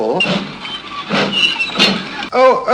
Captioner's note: train sounds